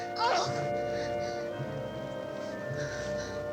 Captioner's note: Klara grunting